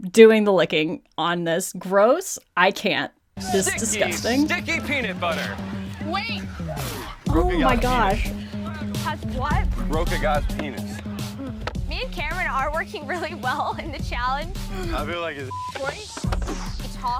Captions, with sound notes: doing the licking on this. Gross, I can't. This is disgusting. - Sticky peanut butter. - Wait. - Oh my gosh. - Has what? - Broke a guy's penis.^ - Me and Cameron are working really well in the challenge. - I feel like it's (beep).